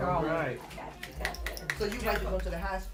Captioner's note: applause